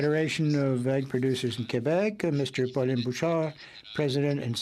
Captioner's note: speaking French